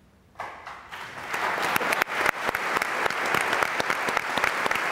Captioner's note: audience applauds